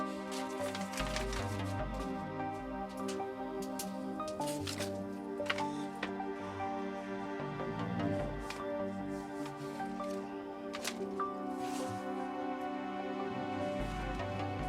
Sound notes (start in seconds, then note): 3.8 pen clicks; 7.4 Billy Ray snores